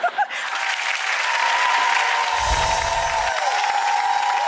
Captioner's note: audience laughs; audience cheers